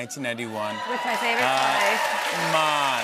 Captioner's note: cheers and applause